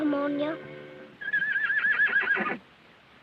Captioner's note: horse neighs